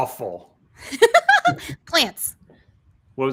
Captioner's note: laughs